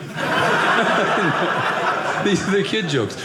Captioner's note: audience laughing